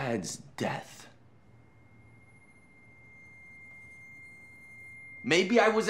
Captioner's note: screeching high-pitched tone